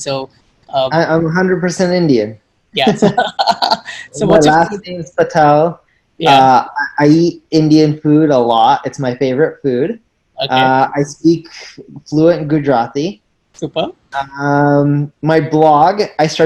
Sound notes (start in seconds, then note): 2.8 laughs